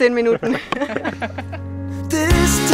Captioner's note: laughter